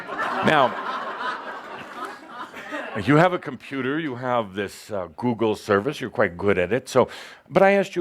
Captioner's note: laughter